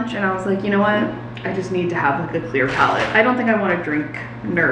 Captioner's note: none